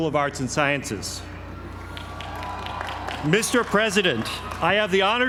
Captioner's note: applause